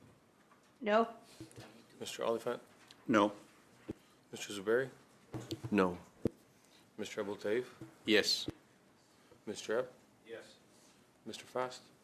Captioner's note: calling of recorded vote